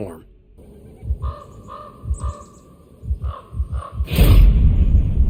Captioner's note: bird croaks; tensed sound effect